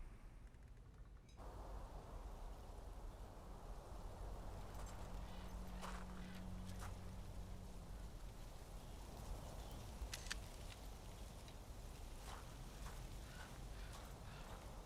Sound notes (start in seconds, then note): 10.1 camera shutter clicks